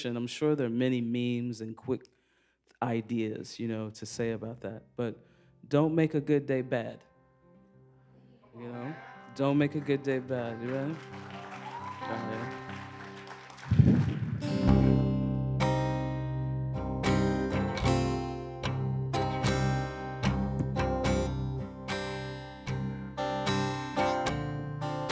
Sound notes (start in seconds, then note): 12.4 applause